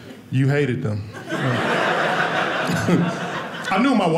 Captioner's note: audience laughing